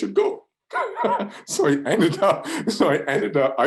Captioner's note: laughs